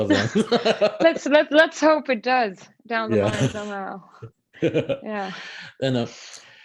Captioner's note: laughs